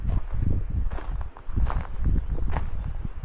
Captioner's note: wind blowing